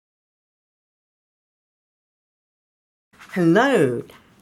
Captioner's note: movement rustling